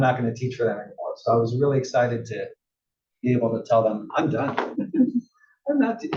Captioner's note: laugh